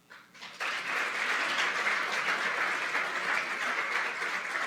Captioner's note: applause